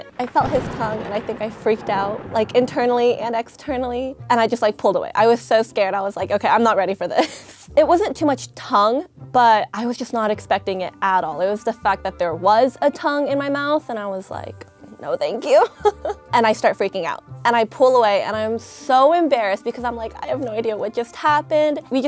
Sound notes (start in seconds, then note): 15.6 laughing